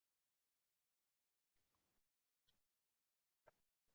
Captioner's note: silence